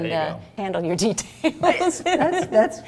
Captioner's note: laughing